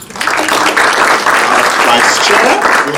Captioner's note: audience applauding